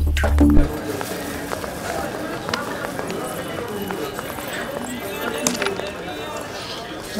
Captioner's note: Market hustle and bustle